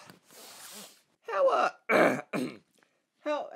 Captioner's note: clears throat